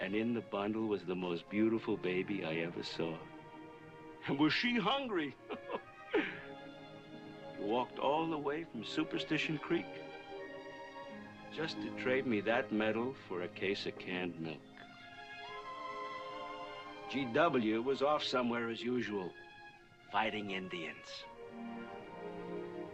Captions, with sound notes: And in the bundle was the most beautiful baby I ever saw. (CHUCKLING) And was she hungry. You walked all the way from superstition creek just to trade me that medal for a case of canned milk. G.W. was off somewhere, as usual, fighting Indians.